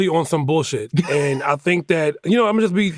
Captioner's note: laughs